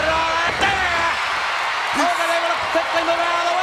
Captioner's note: audience cheers